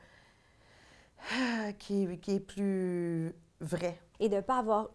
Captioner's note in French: soupir